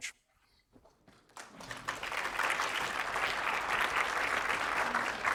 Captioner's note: audience applauds